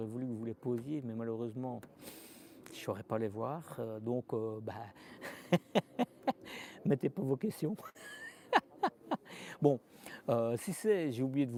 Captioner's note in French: rires